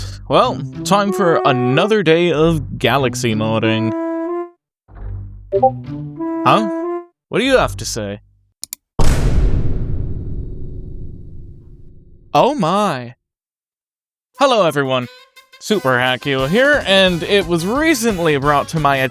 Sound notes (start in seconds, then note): 0.0 exhale; 5.5 ping; 8.6 mouse Click; 9.0 boom